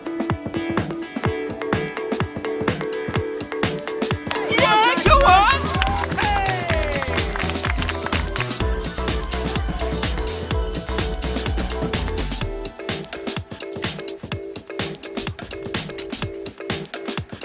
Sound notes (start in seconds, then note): 6.8 crowd clapping; 9.1 upbeat music